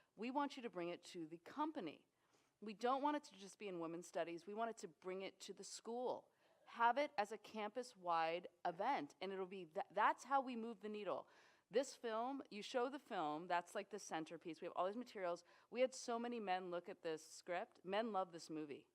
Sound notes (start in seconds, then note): none